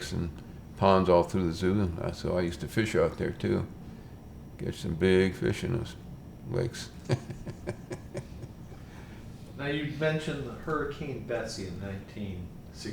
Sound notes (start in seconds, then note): 6.9 laughs